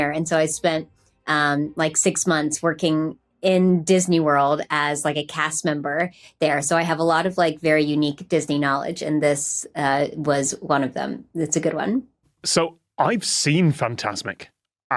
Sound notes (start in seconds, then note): none